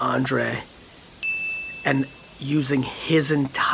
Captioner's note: bell dings